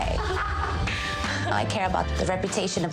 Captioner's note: laughing